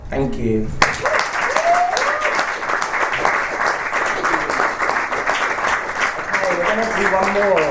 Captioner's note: audience cheers and applauds